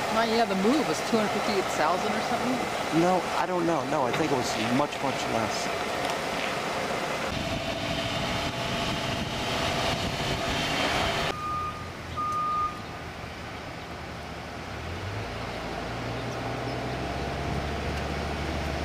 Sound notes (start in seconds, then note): 5.9 truck engine revving